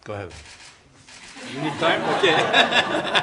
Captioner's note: laughter